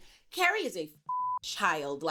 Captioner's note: beep